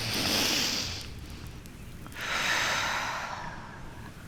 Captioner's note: exhales